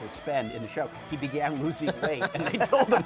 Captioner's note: laughing